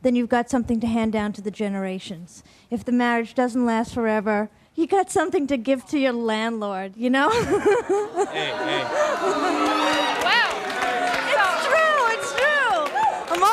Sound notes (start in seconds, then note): 8.3 shouting, booing; 9.3 clapping